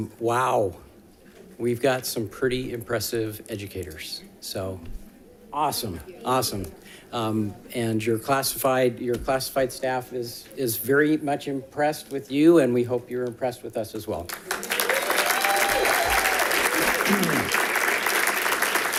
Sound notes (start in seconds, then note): 14.3 audience applauding